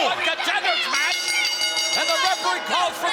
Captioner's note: bell dinging